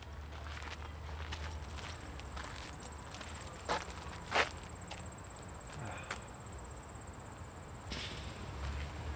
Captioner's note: gravel crunching. crickets chirping